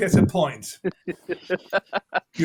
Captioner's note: laughs